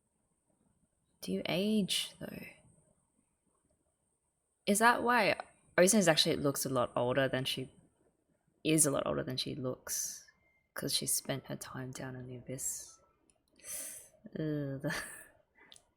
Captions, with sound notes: Do you age though? Is that why - Ozen is actually a lot older than she... is a lot older than she looks, 'cause she spent her time down in the Abyss? [sharp intake of breath] Ugh.